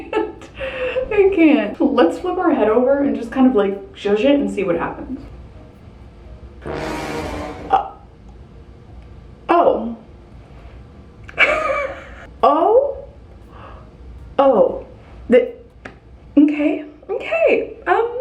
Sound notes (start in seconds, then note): 6.4 dramatic music; 11.4 laughing